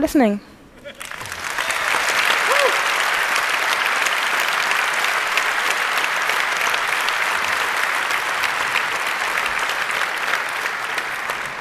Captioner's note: long Applause